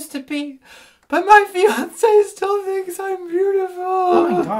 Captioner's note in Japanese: すすり泣き